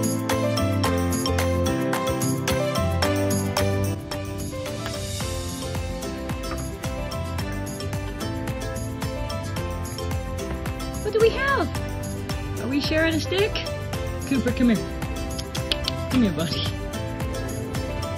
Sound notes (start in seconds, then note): 15.3 clicks tongue